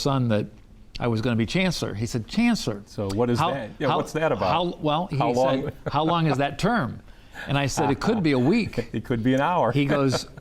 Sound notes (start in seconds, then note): 5.4 chuckles